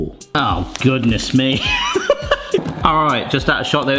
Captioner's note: laughs